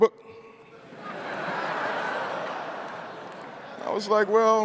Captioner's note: crowd laughing